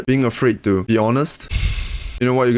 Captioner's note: sigh